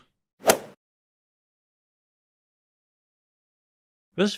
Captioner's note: golf ball hit sound